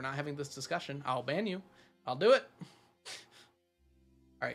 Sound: laughs

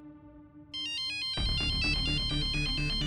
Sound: phone ringing

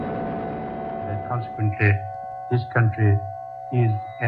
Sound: voiceover

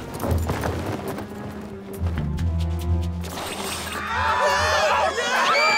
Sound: panicked screaming

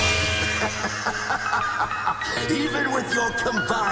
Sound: laughs

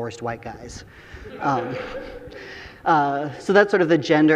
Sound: audience laughing

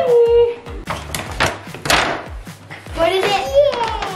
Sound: paper bag rustling

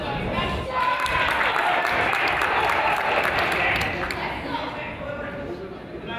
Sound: crowd applauds

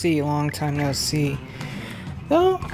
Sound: inhale

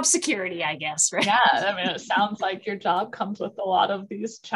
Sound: laughter

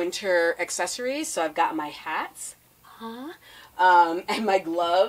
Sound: gasping

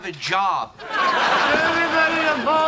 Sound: audience laughing

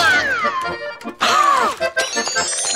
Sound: gasps

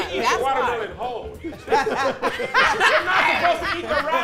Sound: laughing

